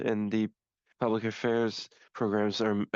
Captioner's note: speaking French